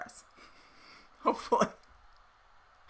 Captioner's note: laughing